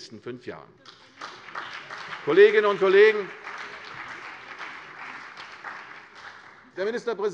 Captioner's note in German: Beifall CDU und BÜNDNIS 90/DIE GRÜNEN